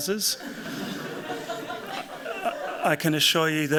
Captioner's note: laughter